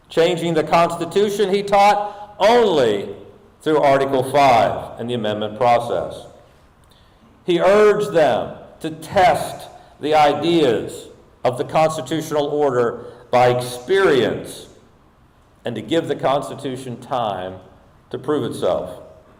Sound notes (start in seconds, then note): none